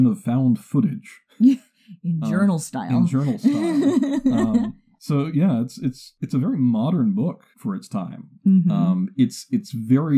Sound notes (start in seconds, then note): 2.9 laughs; 2.9 chuckles